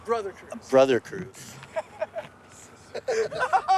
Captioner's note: group laughing; crew member laughs